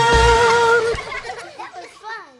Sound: laughter

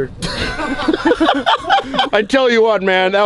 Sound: laughing

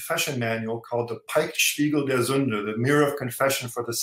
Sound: speaking german

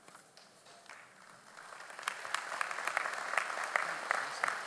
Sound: audience applauds

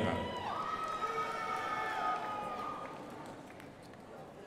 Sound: crowd applauding

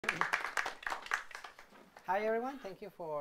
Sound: audience clapping

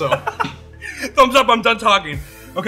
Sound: laughs

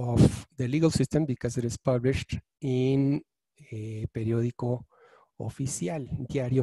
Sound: speaking in foreign language

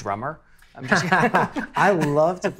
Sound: both laughing

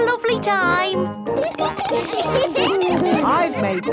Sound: laughter

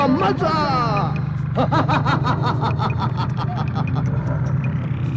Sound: laughs

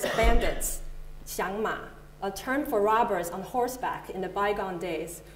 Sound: Mandarin

